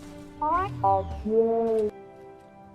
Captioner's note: more beeps